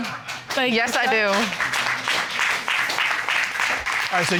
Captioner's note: audience applauding